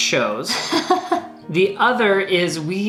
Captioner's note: laughs